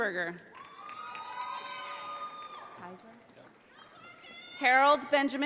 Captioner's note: audience applauding